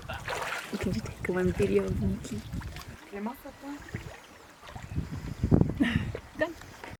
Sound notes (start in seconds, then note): 1.0 murmurs in Icelandic; 6.0 laughs